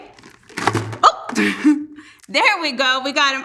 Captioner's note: laughs